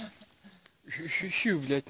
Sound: trying to whistle

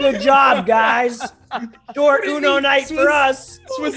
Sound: laugh

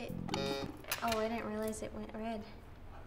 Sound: buzzer sounding

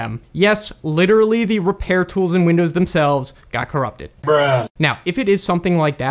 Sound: Bruh Sound Effect #2

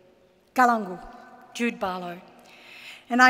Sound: speaks in Ngunnawal

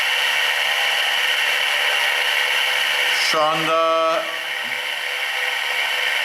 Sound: applause

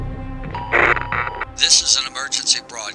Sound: emergency broadcast signal

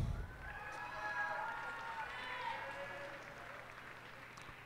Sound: cheers and applause

